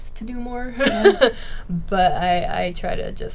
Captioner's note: laughing